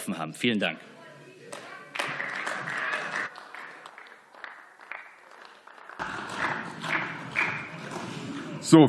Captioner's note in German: Beifall